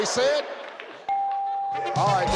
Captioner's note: bell chimes; audience cheering